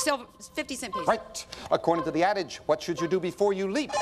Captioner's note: bell rings